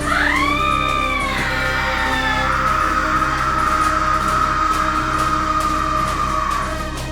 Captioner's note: a single cry of defiance